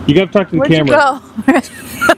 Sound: laughing

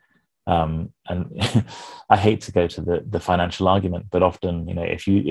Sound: chuckles

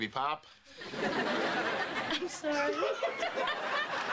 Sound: laughing

